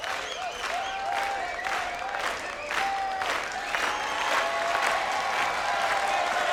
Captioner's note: crowd